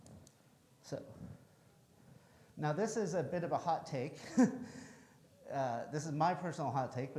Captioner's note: chuckles